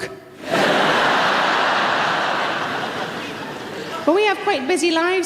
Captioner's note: audience laughs